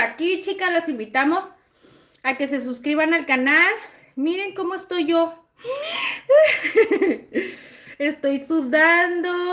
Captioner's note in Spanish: risas